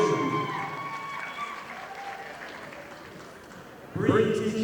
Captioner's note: audience applauding